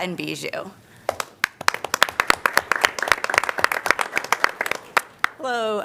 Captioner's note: applause